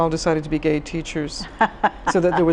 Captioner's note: laughs